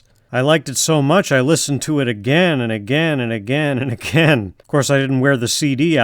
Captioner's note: chuckling